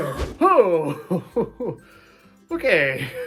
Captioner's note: shocked expression with laughter